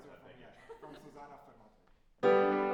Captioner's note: speaks in foreign language; piano music